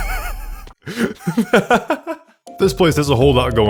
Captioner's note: laughing